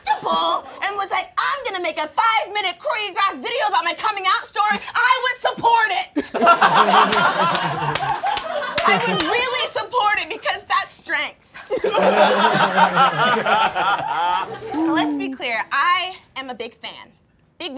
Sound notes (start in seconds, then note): 6.2 all laughing; 11.6 all laughing